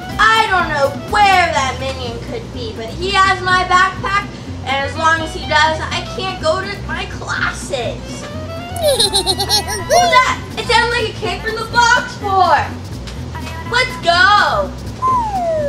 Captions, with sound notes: I don't know where that minion could be, but he has my backpack and as long as he does, I can't go to my classes. (giggling) - What was that? It sounded like it came from the box fort. Let's go.